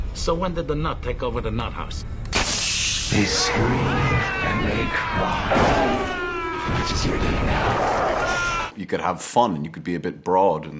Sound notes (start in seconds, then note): 2.3 gas hisses; 3.0 Falcone continue screaming; 3.1 Falcone screams